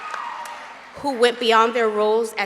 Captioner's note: applause